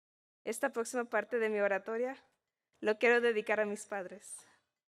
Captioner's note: speaking in Spanish